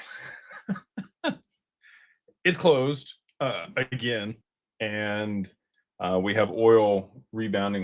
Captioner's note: laughter